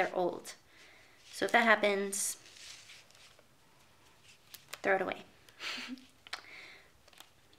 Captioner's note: chuckles